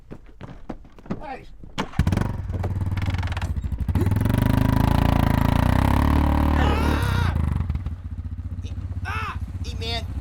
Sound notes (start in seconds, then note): 1.8 ATV starts; 6.5 screams